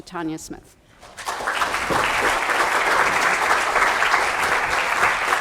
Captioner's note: applause